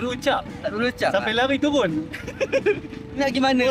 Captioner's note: laugh